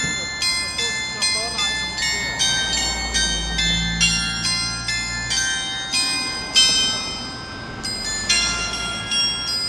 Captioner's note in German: glocke; glocke